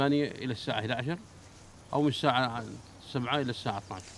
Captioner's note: Arabic spoken audio